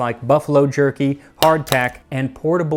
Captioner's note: clack clack